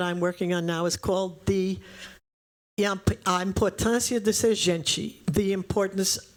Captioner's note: speaking portuguese